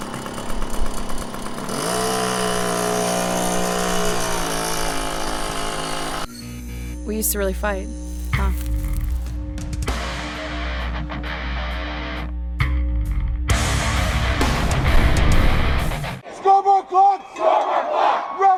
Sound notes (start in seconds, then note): 2.1 motorcycle engine roaring; 10.4 rock music; 14.7 explosion booming; 16.2 crowd